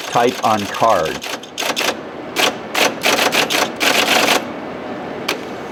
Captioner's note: clunky typing sounds